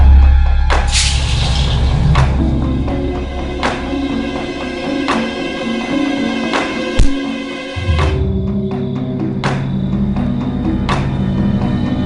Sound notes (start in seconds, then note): 7.0 thudding; 8.9 foreboding music